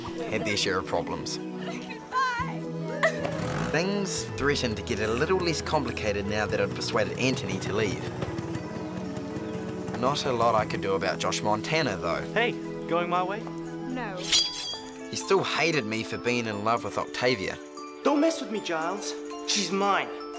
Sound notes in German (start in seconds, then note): 2.7 schluchzend